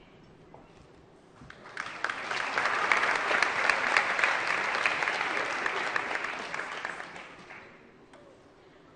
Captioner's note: applause